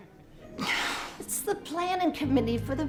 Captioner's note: sighs